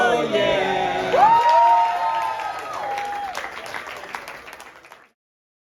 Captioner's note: applause